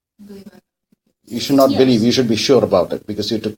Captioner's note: distorted voice